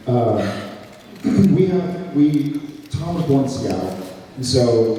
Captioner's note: clears throat